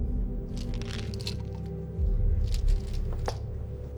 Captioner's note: pills rattling